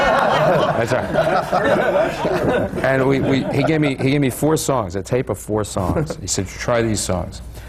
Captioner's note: laughter